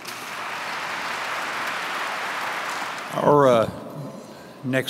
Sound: audience clapping

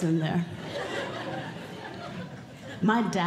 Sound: audience Laughing

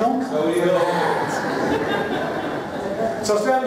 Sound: laughter

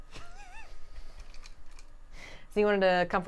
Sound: chuckles

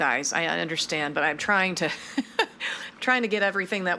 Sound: laughs

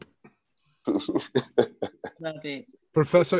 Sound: laughing

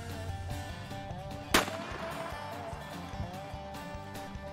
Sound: gun fires

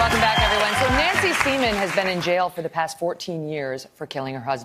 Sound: applause

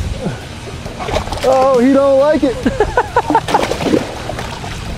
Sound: chuckles

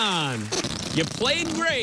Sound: farting noise

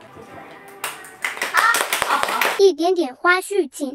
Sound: applause

